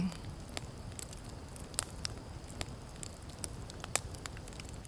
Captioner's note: fire crackling